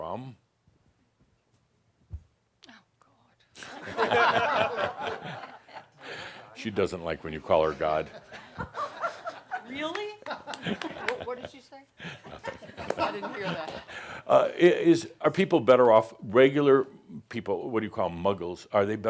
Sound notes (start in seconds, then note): 3.6 laughter; 8.0 more chuckles